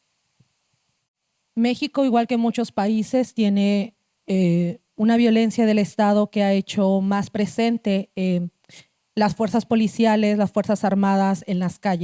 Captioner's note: speaking Zapotec language